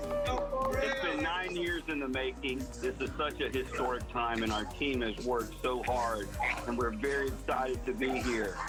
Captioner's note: cheering